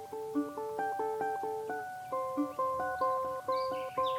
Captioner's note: birds chirping